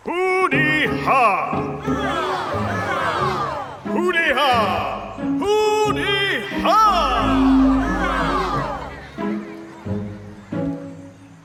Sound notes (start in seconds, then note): 0.3 Pharaoh speaks gibberish; 2.2 crowd repeats; 4.2 Pharaoh speaks gibberish; 7.5 crowd repeats